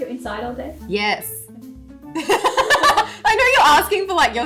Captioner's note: laughs